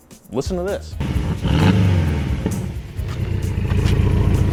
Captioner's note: engine revs